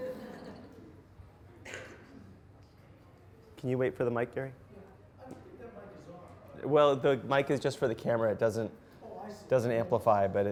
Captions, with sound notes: (audience laughs) Can you wait for the mic, Garry? - [Voiceover] I think the mic is off. - Well, the mic is just for the camera, it doesn't amplify.